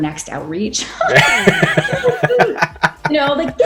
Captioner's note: laughing